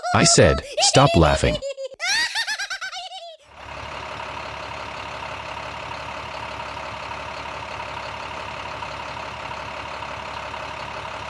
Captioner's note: chickens laugh even more; sound of truck engine